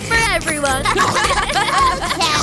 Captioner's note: eating sounds; laughing